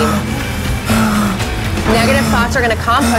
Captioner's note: heavy breathing